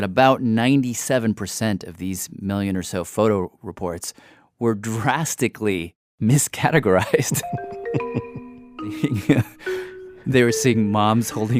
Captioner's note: laughs